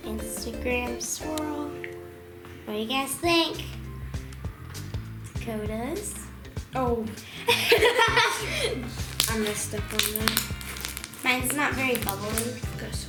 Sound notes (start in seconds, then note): 0.0 upbeat music; 4.1 funky music; 7.4 laughter